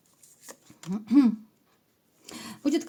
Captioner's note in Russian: откашливается